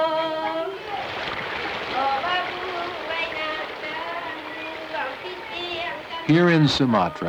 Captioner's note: watermill splashing water